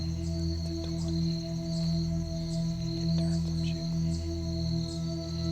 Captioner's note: whispering